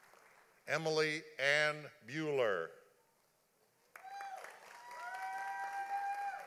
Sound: audience applauding; audience applauding

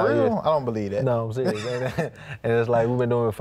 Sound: laughs

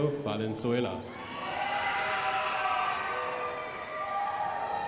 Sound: crowd applauding

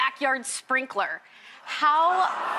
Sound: audience ohs

